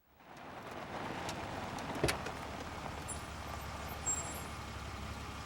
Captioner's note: none